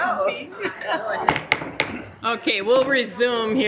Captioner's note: gavel thumping